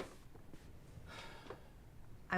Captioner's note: Peter sighs